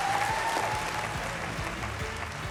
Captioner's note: cheering